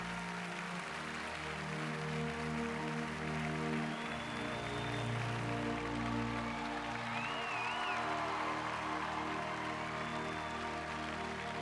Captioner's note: applause